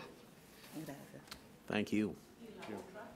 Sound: speaks in a foreign language

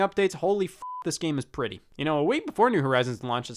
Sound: beep

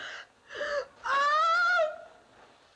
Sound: screams

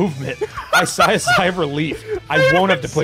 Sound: laughs

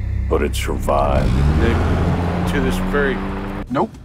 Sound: car reverses

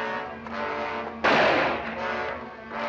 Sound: gunshot

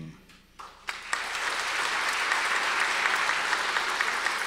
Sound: audience applause

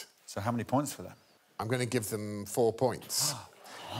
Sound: gasps

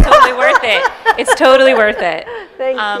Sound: laughter

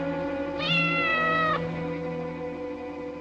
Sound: meowing

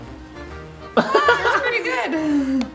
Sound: laughing

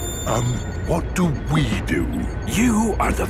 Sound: whispering

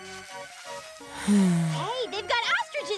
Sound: Gabe sighs

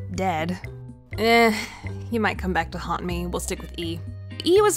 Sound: aggravated sigh

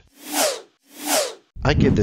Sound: labels swooshing

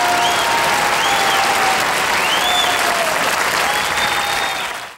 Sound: audience cheering and applauding

